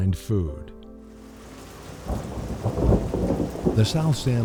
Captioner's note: sound of thunder